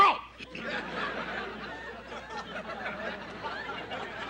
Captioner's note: clears throat